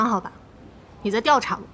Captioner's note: rain